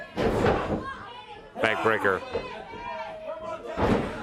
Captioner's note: crowd chatter